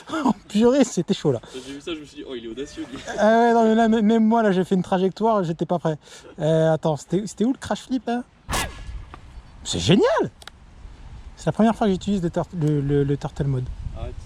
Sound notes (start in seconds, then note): 3.3 french discussion